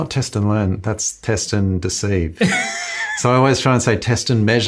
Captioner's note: laughs loudly